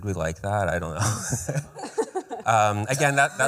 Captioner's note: laughter